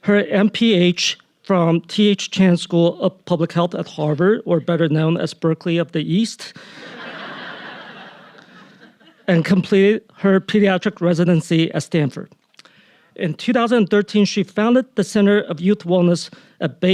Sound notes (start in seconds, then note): 6.7 audience laughing